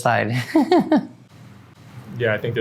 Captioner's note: laughs